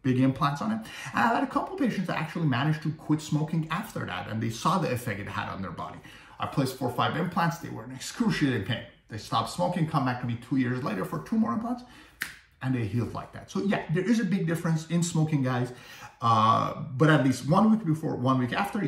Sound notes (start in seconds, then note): 12.1 fingers snapping